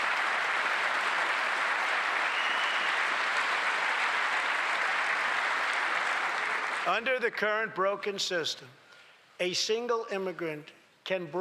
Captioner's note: applause